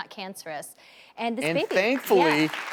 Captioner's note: audience clapping